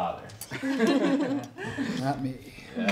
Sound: all chuckling

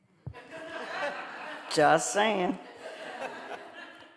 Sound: audience laughing

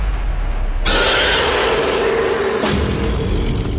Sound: predator yell

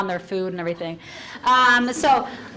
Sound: audience laughs and chatters

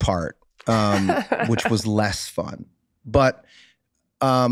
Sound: Meg laughing

